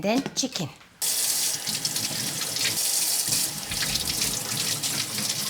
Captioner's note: water running